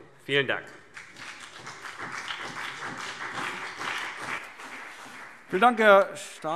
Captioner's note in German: Beifall CDU und BÜNDNIS 90/DIE GRÜNEN